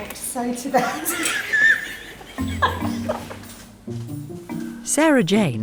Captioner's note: women laugh